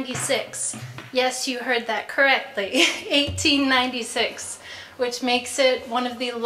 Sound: laugh

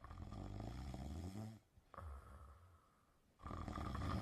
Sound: light snoring

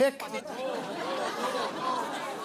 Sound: laughter

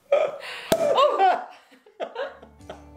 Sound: pop!

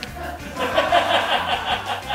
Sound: laughing

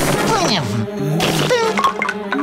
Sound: laughing

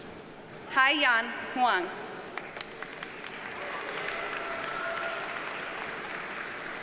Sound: audience cheers and applauds

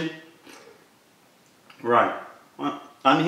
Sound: sips tea

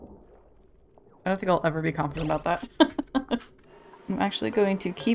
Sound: laughs

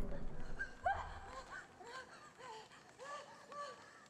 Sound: climactic music; woman gasping

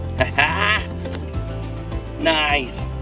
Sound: laughs

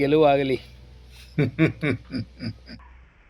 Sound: sarcastic laughter

